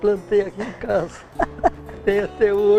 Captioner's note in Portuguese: risos